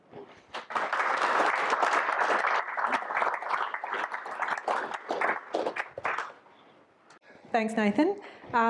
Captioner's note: audience applause